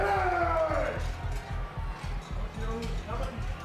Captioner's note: Shawn yells